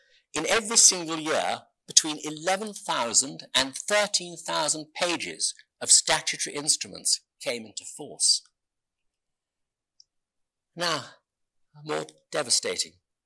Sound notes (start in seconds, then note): none